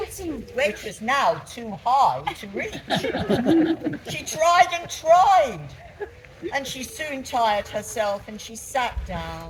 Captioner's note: laughter